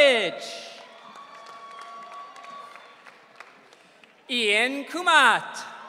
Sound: audience cheering

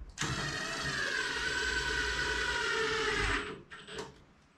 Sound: drill whirring

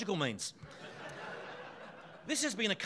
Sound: audience laughing

